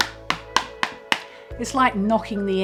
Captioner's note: tapping